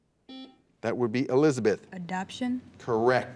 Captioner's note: buzzer beeps